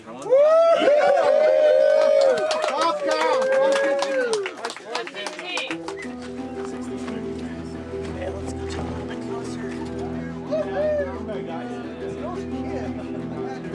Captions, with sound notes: Woo! [Cheering] Top count, 115. 115. Woo-hoo!